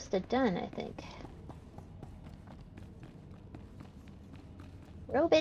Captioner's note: footsteps